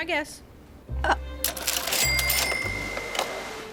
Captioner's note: cashier drawer rings